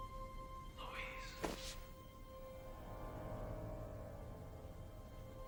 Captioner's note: whispers